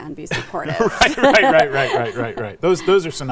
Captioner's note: laugh